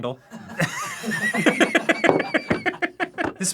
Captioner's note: laughing